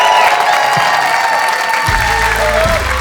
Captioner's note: audience cheering; outro music